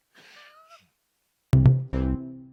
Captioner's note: laughing